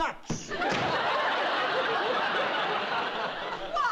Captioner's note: laughter